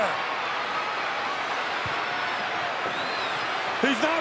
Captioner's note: crowd cheering